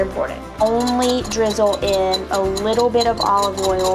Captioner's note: whisk clatters